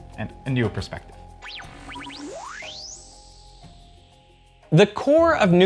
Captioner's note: screen beeping and chirping